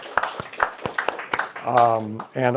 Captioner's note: applause